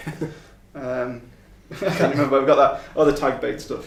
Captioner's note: laughing